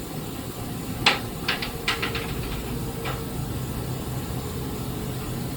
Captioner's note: floorboards continue creaking